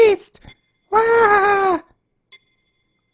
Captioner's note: in an annoying mocking voice